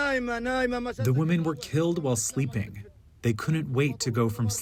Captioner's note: through translator